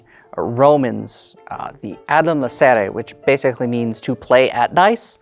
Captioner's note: speaking Latin